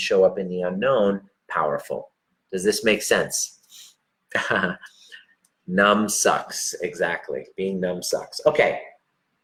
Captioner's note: laughs